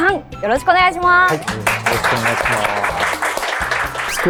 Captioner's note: applause